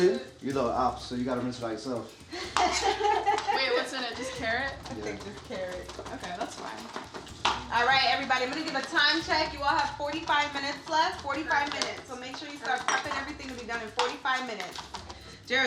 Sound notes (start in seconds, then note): 2.3 laughing